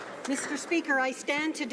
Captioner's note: some Applause